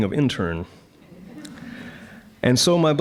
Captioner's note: audience chuckling